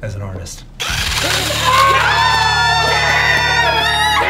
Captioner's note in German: Leute schreien